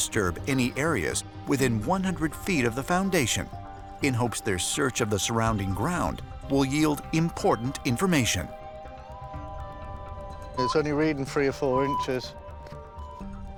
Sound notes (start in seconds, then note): 7.8 beeping